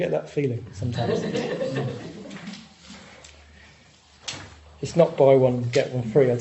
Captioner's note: audience laughing